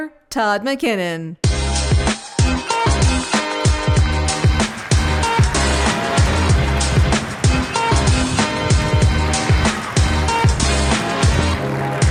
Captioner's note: applause